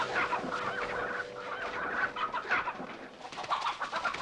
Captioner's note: chickens cackling